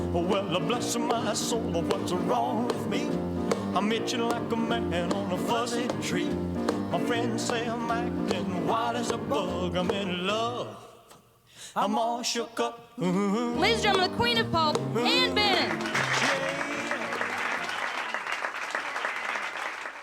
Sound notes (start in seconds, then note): 14.2 emcee, over singing; 15.2 applause, cheers